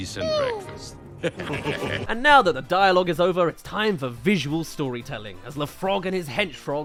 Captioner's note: chuckles